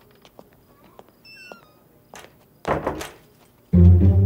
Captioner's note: Door closing